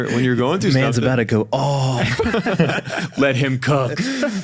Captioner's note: group laughs